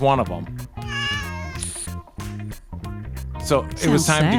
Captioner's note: cat meows